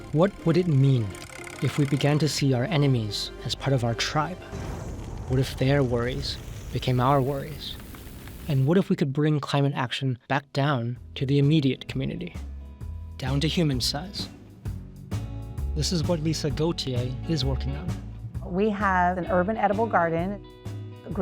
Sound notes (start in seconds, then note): 4.4 explosion hissing; 14.5 light music